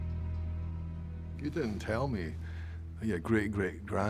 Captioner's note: scottish accent